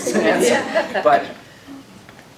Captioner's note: laughter